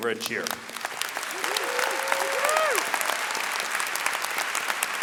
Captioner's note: audience cheering and clapping